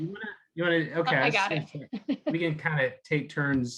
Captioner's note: both chuckling